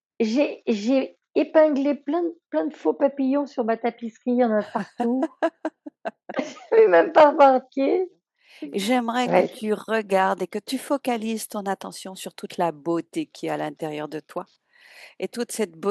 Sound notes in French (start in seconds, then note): 5.7 rires